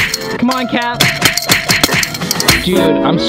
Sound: smacking

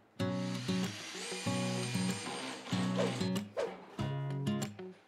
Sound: drill roaring; upbeat music continues

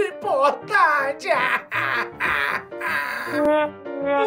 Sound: crying

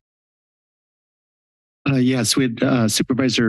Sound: silence

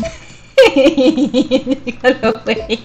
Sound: laughs

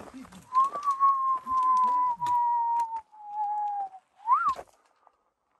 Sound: wolf-whistling

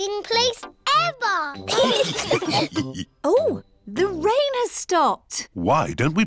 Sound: laughter

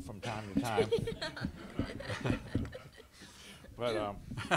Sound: laughter

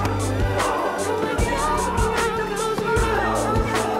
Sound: men yelling

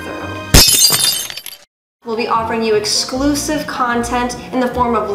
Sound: glass breaking

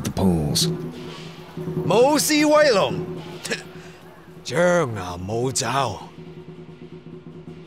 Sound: in Cantonese

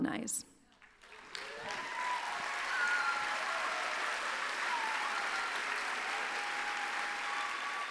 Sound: applause

